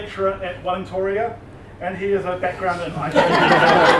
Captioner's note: laughter from crowd